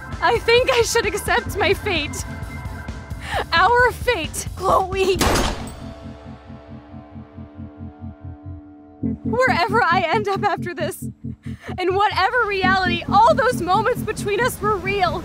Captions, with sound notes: I think I should accept my fate - our fate. Chloe! *Gunshot* Wherever I end up after this, in whatever reality - all those moments between us were real.